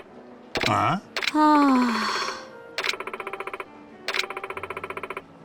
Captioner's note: sigh; sound of gasping